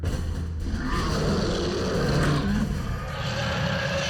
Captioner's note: roars